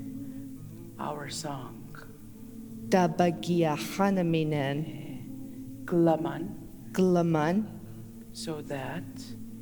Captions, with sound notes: Our song [In Mi’kmaq] Our song [In Mi’kmaq] So that [In Mi’kmaq] So that So that